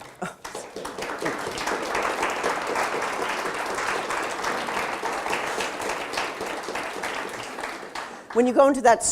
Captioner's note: audience applauded